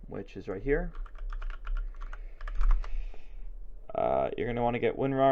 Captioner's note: intense keyboard clicking